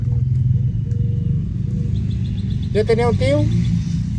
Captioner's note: birds chirping; speaking in foreign language